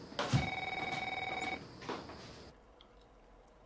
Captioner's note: phone rings